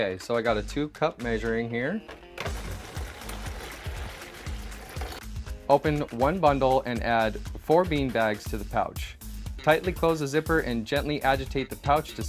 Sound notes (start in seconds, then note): 2.4 water pouring